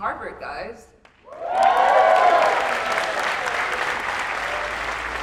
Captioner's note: applause, cheers